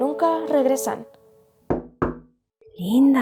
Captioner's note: knocks on door